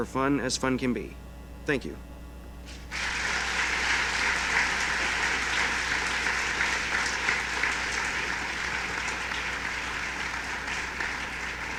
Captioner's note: applause